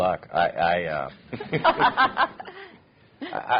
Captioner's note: laughter